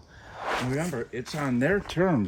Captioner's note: air swooshes